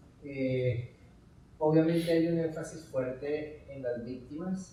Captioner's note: speaking in Spanish